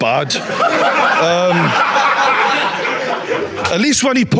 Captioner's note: audience laughing